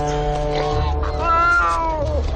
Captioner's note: cat moaning